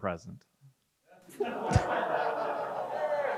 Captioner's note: crowd chuckles; crowd member claps